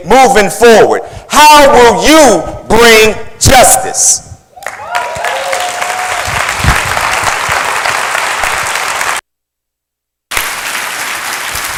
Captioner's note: applause